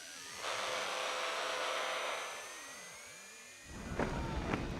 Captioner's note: radio frequency humming